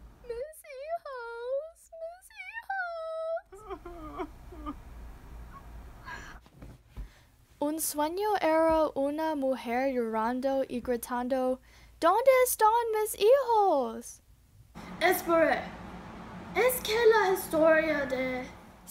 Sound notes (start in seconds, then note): 3.4 crying again